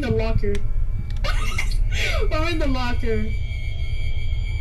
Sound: laughs

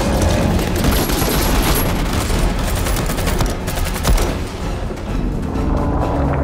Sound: gunfire; loud humming

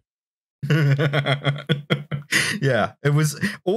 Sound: laughter

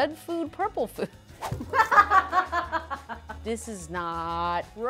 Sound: laughs

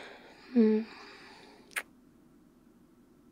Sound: kiss

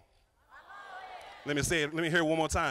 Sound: crowd

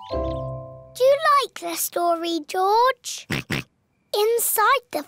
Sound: oinks

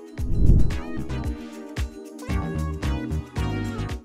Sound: screen whooshing

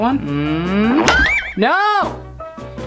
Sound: whistling

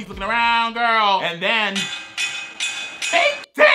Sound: pipes banging

